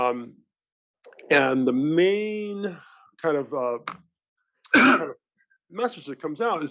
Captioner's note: cough